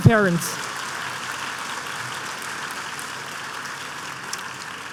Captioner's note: applause